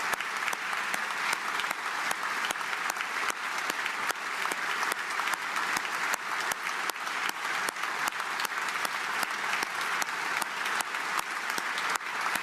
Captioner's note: applause